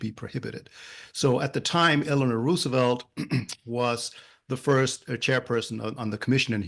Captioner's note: cough